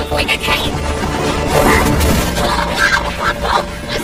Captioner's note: gasps